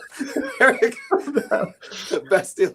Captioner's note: laughs